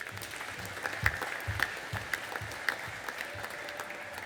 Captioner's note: audience applauding